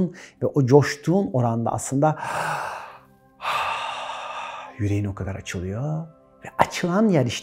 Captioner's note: heavy breathing